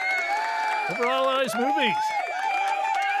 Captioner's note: audience cheering